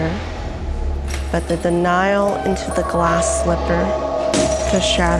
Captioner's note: glass shatters